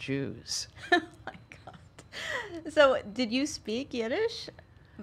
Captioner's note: laughs